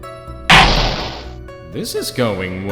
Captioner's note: gavel slams!